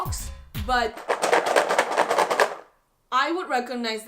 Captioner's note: rattles